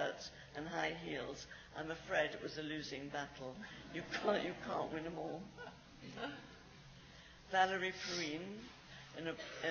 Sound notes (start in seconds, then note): 6.0 laughs